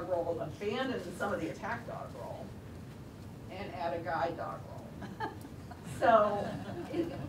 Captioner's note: laugh